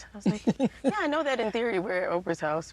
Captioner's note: chuckles